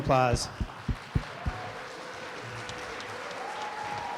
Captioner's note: applause